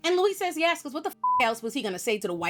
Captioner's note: beep